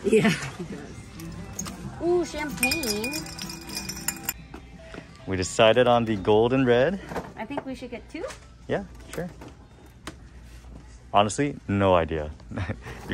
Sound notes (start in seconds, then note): 0.0 girlfriend laughs; 2.4 glass clinking